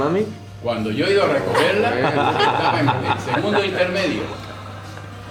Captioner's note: laughter